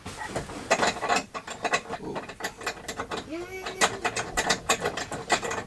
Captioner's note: metal clanking sound